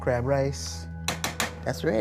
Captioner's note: banging on the side of the pot